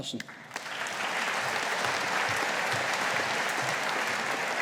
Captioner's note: audience applauding